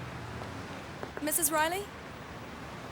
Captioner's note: knuckles rapping